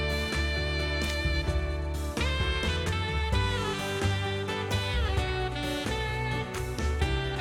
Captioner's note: faint voice